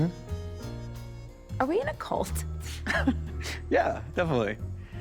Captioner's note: chuckles